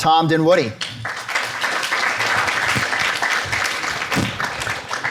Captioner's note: audience applauds